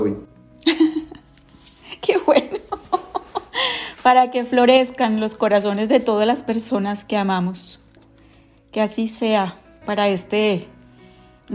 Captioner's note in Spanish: risas